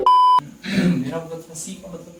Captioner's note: coughs